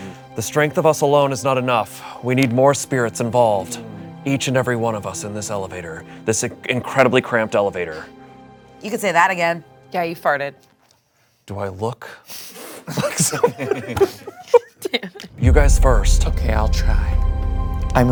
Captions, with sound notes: The strength of us alone is not enough. We need more spirits involved, each and every one of us in this elevator. This incredibly cramped elevator. - You can say that again. - Yeah you farted. - Do I look... (laughing) You guys first. - Okay I'll try.